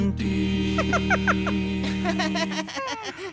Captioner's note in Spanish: risas